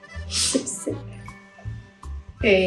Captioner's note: sip sip